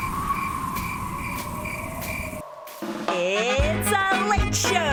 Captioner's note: crickets